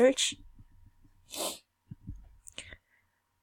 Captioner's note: sniff